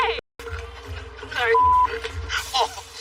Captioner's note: laughs